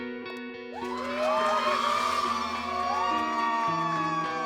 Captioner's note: cheering